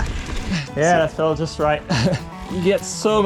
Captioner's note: chuckles